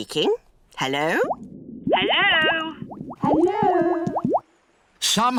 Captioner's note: voice echoes